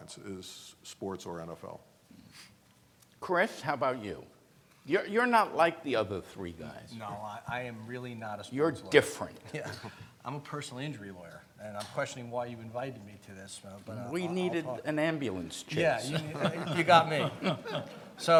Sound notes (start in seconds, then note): 15.8 laughs